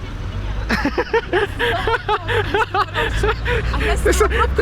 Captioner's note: haha